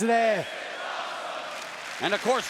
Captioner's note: crowd chants "This is awesome"